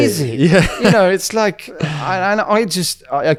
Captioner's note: laughs